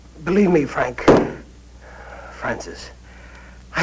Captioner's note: hits